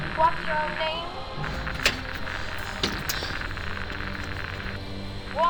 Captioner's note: phone line crackling